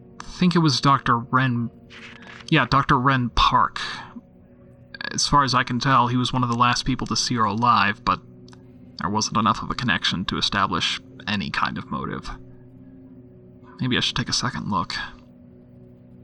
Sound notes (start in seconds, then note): 1.9 paper rustling